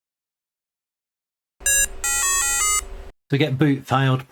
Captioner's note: beeping